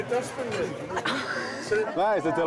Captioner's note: laughs